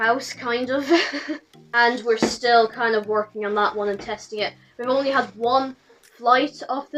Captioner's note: laughs